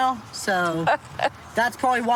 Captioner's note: laughs